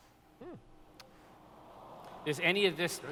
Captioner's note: awwws